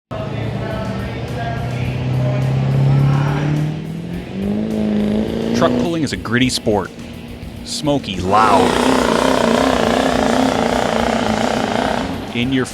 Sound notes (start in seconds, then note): 2.2 truck engine; 9.0 truck engine revving